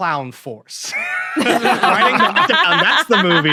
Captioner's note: group laughing